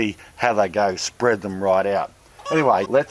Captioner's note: chickens clucking